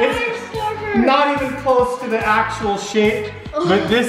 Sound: gasping

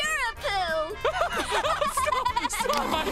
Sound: chuckles; laughing

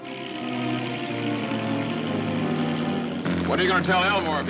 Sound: boat engine whirs

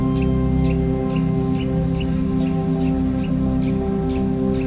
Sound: distant birds chirping

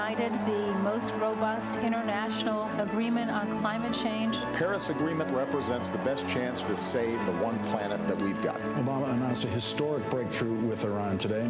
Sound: cheers & applause

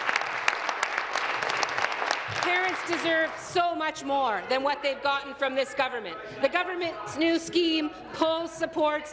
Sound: applause

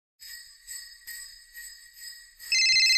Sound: bells jingling; phone ringing

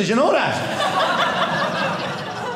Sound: audience laughing

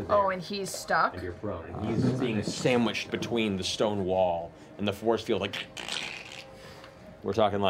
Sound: crackling

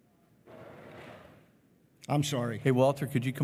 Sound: chair rattling

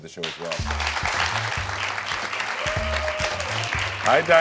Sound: audience applauding

